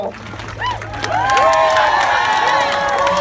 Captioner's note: cheers